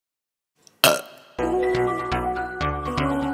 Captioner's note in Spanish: Eructo